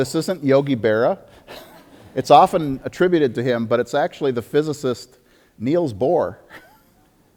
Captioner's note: audience laughter